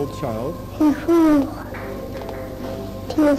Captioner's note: child making sounds